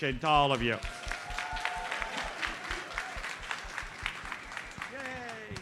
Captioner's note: audience cheers and applauds